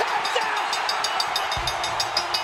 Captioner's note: hand tapping; audience cheering; bell clinging; upbeat music